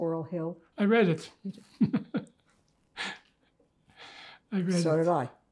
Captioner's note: laughing